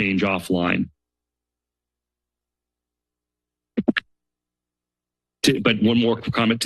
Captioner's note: silence